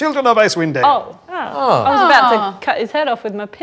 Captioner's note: overlapping chattering